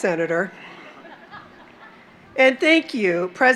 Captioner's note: laughter